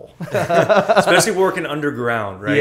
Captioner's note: laughter